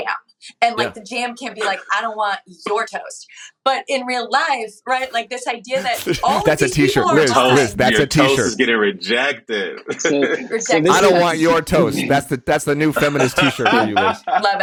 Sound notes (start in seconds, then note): 8.5 echo